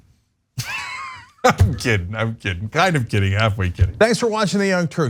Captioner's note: laugh